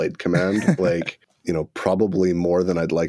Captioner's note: laughter